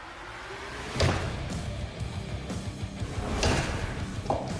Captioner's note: chopping